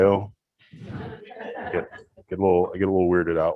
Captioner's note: audience laughs